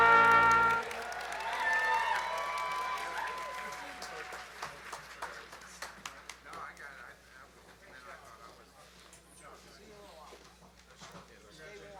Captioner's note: applause